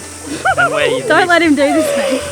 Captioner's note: laughing